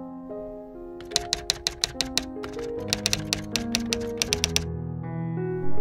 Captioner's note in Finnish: kirjoituskoneen naputusta